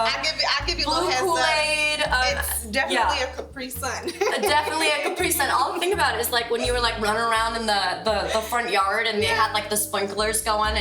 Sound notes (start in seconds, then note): 4.0 laughs